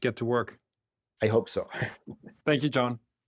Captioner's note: laugh